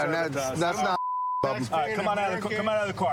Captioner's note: chatter